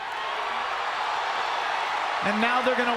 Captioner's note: crowd cheers